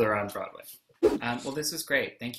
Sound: whoosh

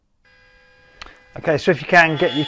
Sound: machine saws blade

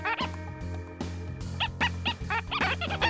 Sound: squeaking

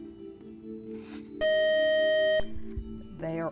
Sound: beeping

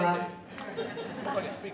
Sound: audience laughing

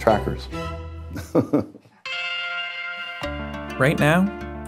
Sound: laughs

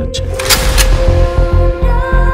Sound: sound of a gun loaded

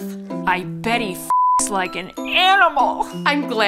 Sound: beep

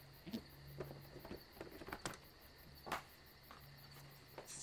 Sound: box jostling

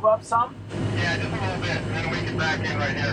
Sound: over the walkie-talkie

